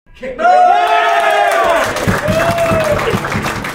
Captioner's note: cheers